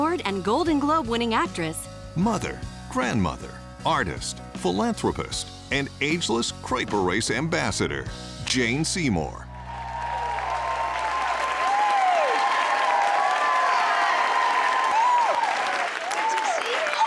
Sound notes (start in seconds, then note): 10.1 cheering, applause